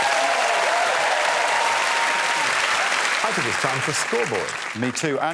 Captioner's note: applause